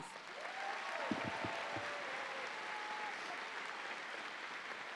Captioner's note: audience applauding